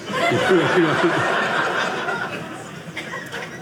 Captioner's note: audience laughing